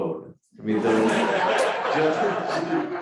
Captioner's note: crowd laughing